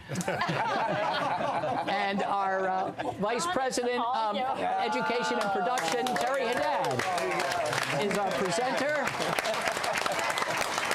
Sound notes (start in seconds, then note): 7.4 applause